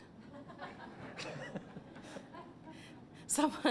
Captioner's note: laughter